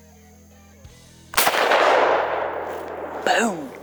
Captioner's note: rifle bangs